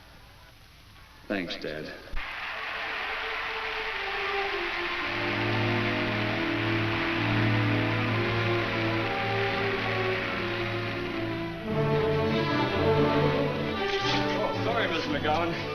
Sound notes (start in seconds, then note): 2.4 crowd applauds; 12.1 energetic music